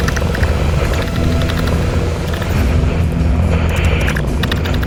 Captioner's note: radio static buzzing